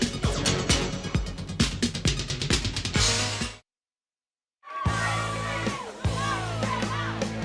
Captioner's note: crowd chatter